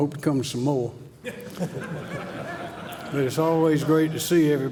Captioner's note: laughter